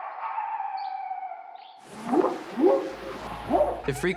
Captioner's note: barking; whooping sound